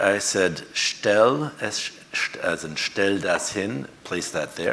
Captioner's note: speaks foreign language